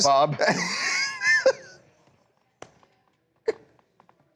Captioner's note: laughter